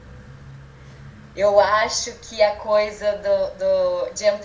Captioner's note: stammers